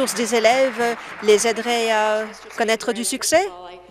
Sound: applause

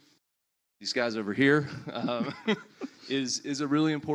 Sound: panelists laugh

